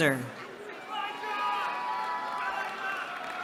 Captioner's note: cheering